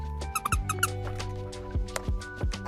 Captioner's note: squee squee squee squee